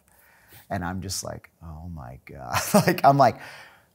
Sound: laughing

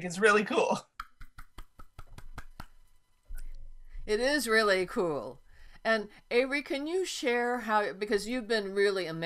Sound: clapping

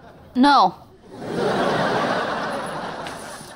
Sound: laughing

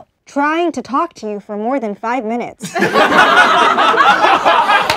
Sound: laughing

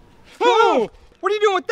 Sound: screams

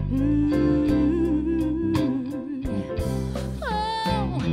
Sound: humming

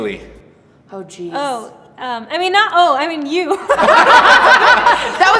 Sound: laughs

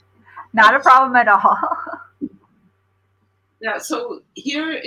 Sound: laughter

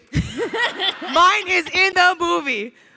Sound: crowd laughing; laughs

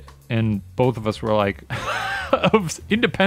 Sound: laughs

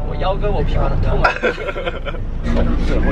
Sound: laughing

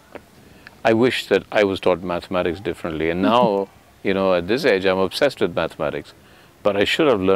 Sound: Sadhguru laughs

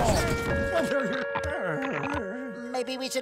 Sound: groaning

